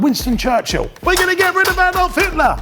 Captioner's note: thumping